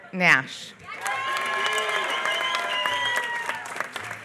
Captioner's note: applause